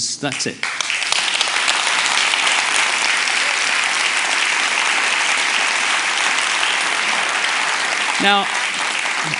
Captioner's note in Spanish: Aplausos